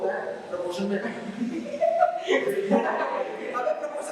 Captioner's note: audience laughs